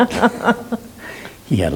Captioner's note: laughing